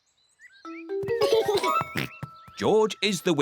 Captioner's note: george giggles